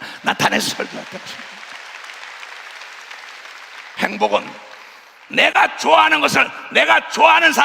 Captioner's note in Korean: 박수